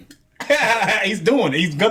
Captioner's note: laughs